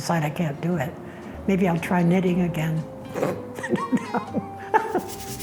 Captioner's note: scoffs